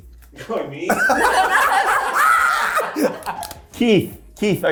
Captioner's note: cast laughing